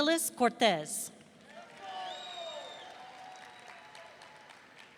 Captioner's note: audience cheering